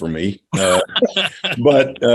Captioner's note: laughing